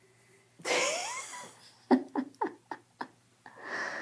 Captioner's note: laughs